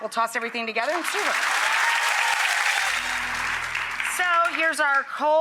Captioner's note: audience applauding